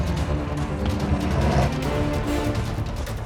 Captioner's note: animal grunts